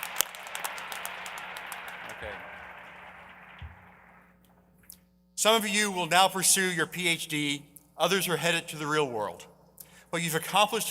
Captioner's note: applause